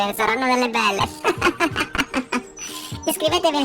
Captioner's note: laughs